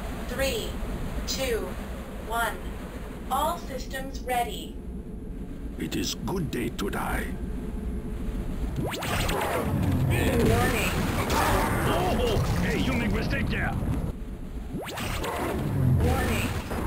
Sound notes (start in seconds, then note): 8.7 teleporter noise; 14.7 teleporter noise